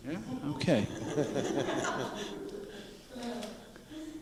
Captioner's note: quiet laughter